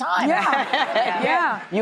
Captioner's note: laughing